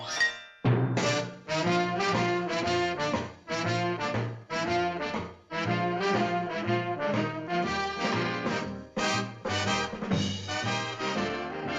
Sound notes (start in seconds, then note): none